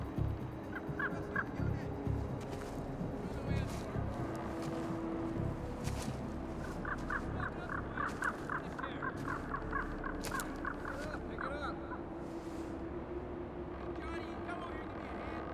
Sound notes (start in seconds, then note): 3.2 men chatting in distance